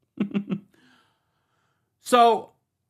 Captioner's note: chuckles